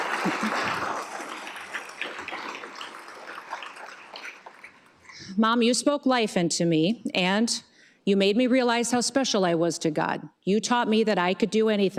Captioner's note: applause